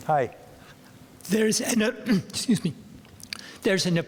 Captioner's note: clears throat